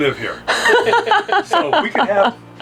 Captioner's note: laughing